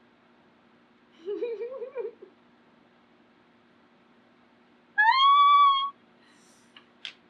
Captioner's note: laughs